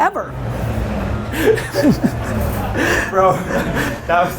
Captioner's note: laughs